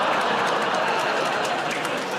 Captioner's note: audience groans